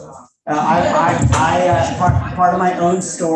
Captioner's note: audience chattering